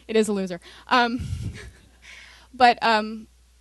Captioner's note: laughter